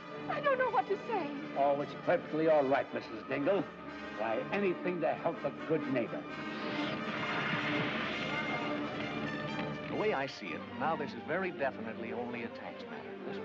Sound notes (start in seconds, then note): 6.5 dramatic music; 6.8 water spraying